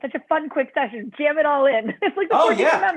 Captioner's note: laughter